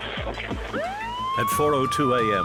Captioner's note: police siren blaring